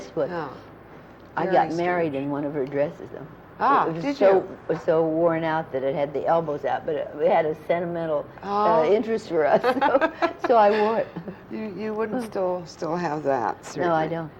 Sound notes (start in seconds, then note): 9.5 laughter